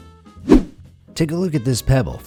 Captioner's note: whoosh